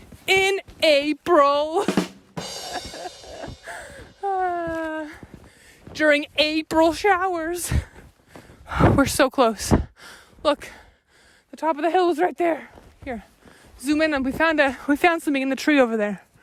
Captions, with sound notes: In Ape-ril! (cymbals crash) (laughs) During Ape-ril showers! We're so close. Look. The top of the hill's right there! Here, zoom in, and we found something in the tree over there.